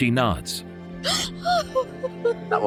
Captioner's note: crying